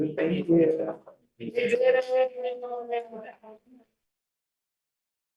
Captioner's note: board members chattering